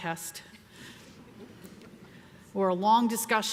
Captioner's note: audience laughs